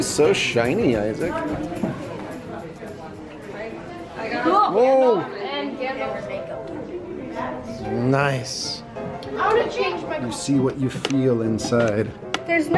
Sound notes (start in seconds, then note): 4.9 exclaim; 5.8 playful music